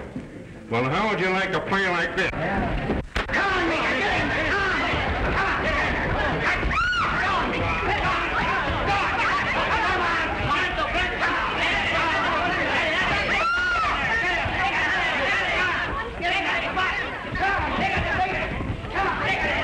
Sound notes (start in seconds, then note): 6.7 scream; 7.5 yelling; 13.2 scream